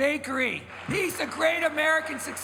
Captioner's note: crowd applauds